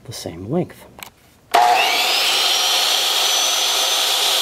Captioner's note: power saw